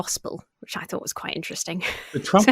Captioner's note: laughing